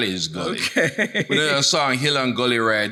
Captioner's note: laughs